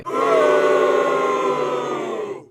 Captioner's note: loud Booing